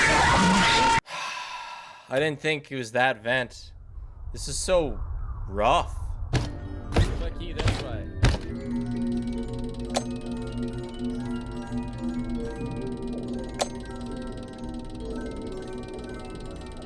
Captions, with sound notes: (Sighs) I didn't think it was that vent. This is so... rough.